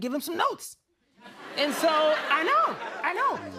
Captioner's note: laughter